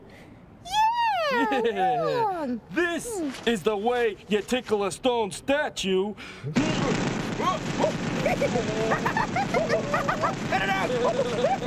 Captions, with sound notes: YEAH, WRONG. THIS IS THE WAY YOU TICKLE A STONE STATUE. ( jackhammer rumbling ) ( laughing ) CUT IT OUT.